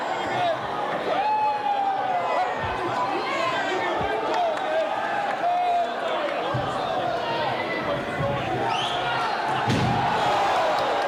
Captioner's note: crowd cheering